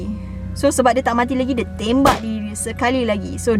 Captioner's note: gun pop sound